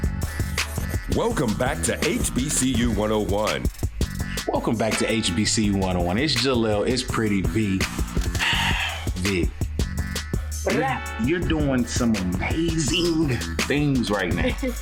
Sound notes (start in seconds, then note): 0.1 upbeat music; 8.4 sighs; 14.5 giggles